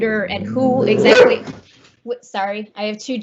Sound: barking

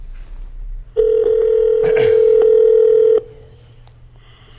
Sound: phone rings on Speakerphone

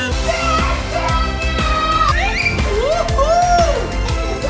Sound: kids shouting

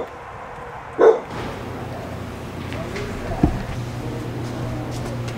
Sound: voters chatting softly

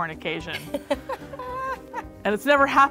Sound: laughing

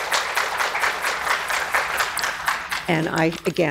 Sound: applause

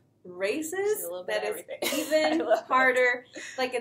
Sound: chuckles

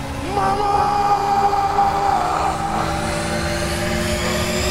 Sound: increasingly loud whirring

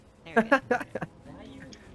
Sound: laughs

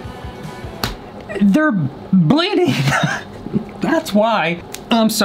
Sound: laughs

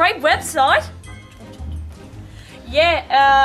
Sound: whispers

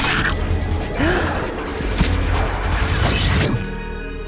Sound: fangs slicing; Marceline gasps

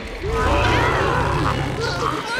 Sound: roaring

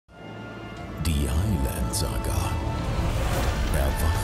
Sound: voiceover

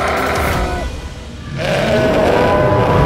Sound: bull roaring

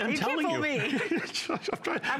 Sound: laughter

